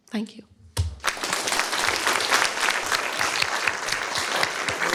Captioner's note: applause